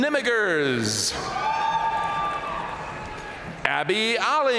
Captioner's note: audience cheering and applauding